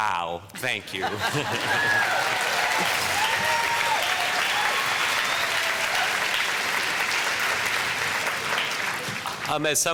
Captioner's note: audience applause